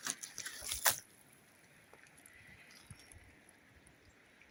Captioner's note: splat